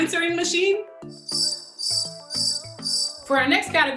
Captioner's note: clueless noise